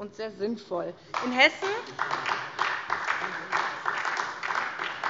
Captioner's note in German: Beifall SPD